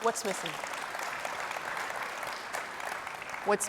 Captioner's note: audience applauding